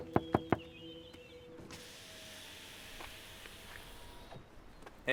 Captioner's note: knocking on window